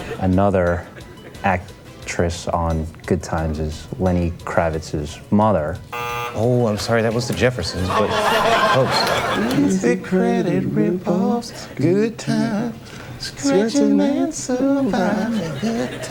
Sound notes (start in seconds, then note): 5.9 buzzer blares